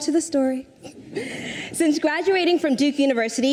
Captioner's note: audience chuckles